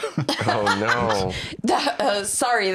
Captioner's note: laughs